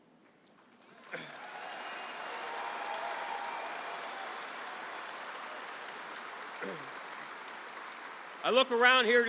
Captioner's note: applause